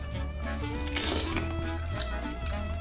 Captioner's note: slurping and eating noises